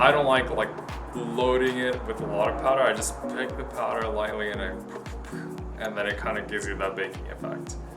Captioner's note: poof